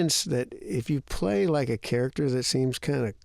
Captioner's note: none